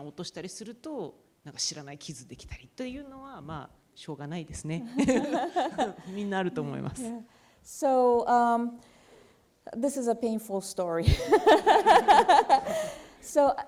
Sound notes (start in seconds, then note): 4.9 laughter; 6.2 speaking japanese; 11.1 laughs